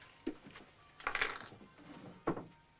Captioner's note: keys setting down